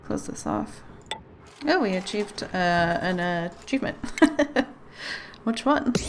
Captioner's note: laughs